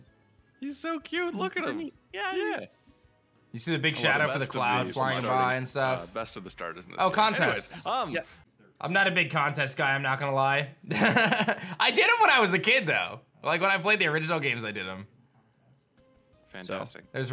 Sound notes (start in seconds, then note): 11.0 laughs